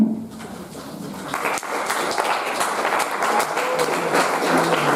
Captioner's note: audience applauding